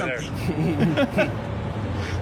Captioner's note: both chuckling